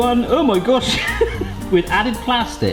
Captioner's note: chuckles